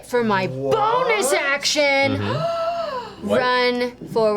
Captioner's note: gasps